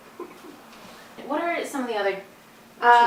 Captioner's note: chuckles